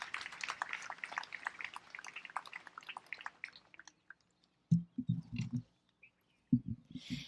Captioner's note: applause